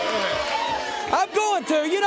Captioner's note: crowd chatter